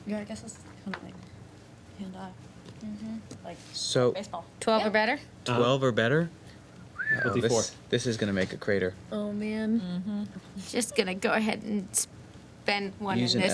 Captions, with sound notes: Yeah, I guess this is kinda like, hand off. Mhmm. Like baseball. So-- 12 or better? 12 or better? (whistles) This is gonna make a crater. Oh man. Mhmm. Just gonna go ahead and spend one on this too--